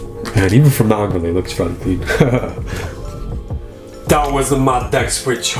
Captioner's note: laughs